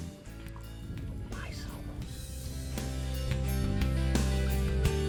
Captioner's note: whispers